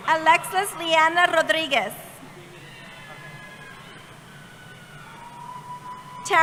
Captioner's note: cheering